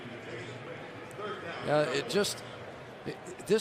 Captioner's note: pa announcement